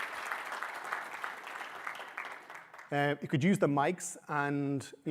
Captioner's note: applause